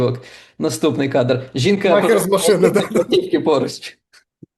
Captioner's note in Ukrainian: сміється